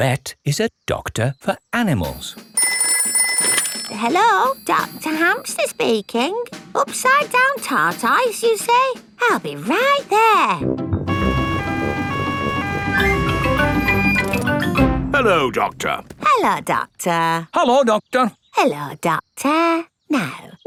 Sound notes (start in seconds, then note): 2.4 ringing; 11.0 siren wailing